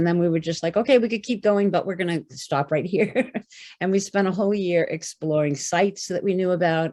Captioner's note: laughter